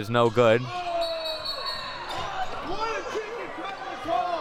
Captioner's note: whistle blowing; audience chattering and yelling